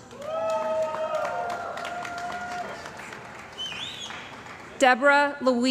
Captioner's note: cheering & Applause